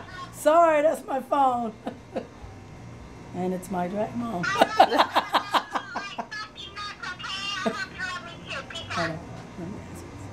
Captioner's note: laughs again